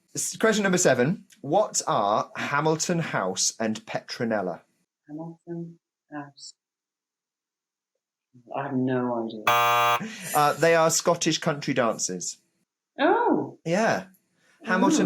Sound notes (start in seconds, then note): 9.4 buzzer sounds